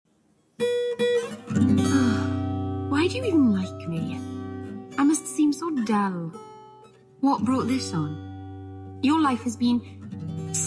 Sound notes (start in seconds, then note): 1.8 sigh